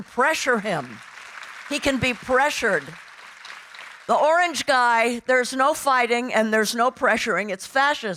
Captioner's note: audience applauding